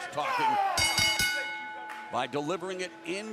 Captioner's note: bell ringing